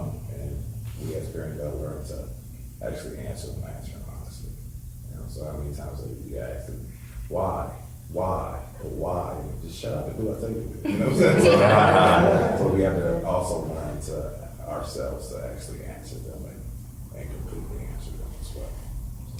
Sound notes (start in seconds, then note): 10.8 all laughing